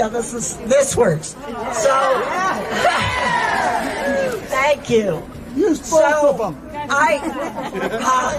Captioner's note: laughter